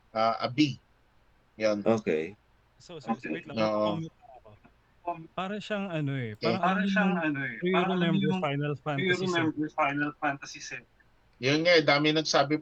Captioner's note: laughs